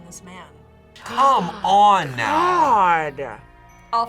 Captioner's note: gasps